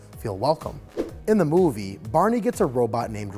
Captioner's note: air whooshes